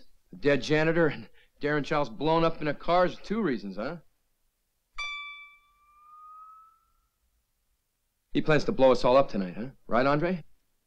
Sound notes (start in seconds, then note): 5.0 lightly chimes